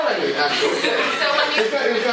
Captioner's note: laughter